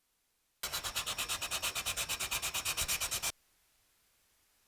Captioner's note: sandpaper scratching